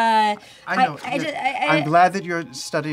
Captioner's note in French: bégaie